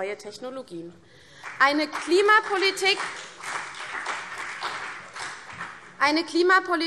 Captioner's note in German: Beifall CDU